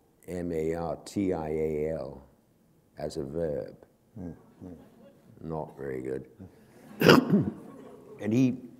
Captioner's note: laughter